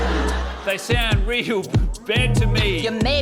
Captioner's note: laughter; laughs